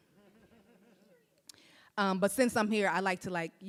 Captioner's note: audience laughs